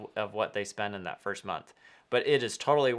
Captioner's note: none